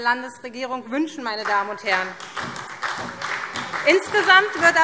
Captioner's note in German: Beifall SPD